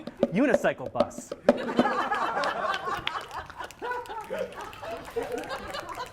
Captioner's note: laughter + applause quickly stopped + finger snapping